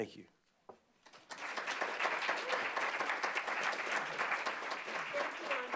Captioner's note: applause